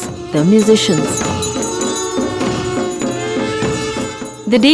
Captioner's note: trumphets blowing; reed pipe music; bells jingling; soft drumming